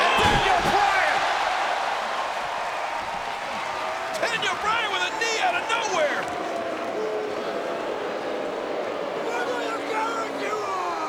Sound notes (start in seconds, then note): 1.6 audience cheers; 6.9 audience jeers